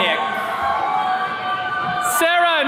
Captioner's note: attendees cheering